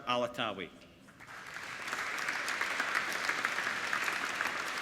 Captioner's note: applauding